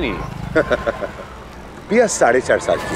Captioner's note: Laughs